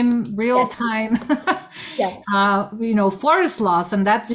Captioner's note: laughs